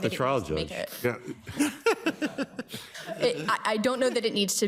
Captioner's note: everybody laughs